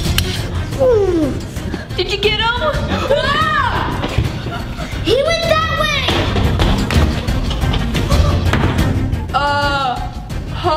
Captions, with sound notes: - ahhh - Did you get him? (yells) - He went that way! (running footsteps) Uh.